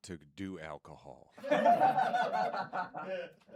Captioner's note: laughter